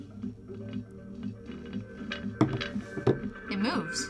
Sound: speaker rattling

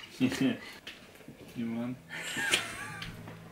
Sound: laughs

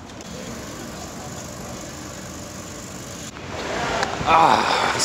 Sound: people chatting; tram running

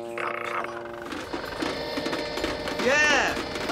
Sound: whirr!

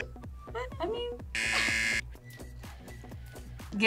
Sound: buzzer rings

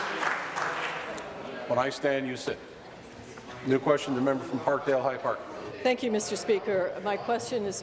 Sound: applause

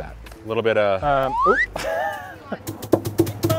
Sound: whistling; drums beating

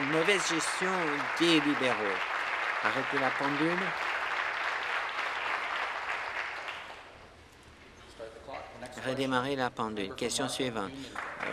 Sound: applause

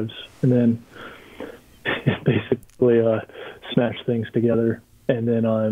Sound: chuckling

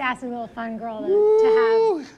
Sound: laughs

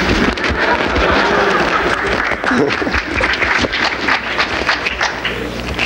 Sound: audience laughs and claps

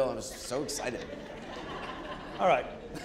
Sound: audience chuckling

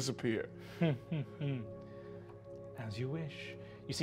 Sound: chuckling

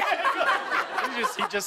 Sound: laughter

